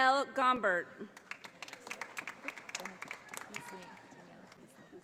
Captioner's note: audience applauding